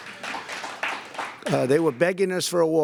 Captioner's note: applause